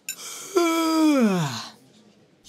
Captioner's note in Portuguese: Yawns em voz alta